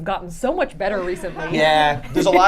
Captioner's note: laughing